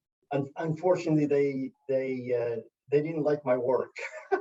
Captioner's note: laugh